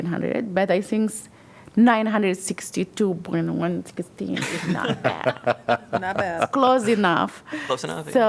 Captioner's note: laughter